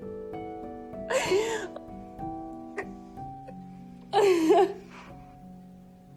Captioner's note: Serena starts sobbing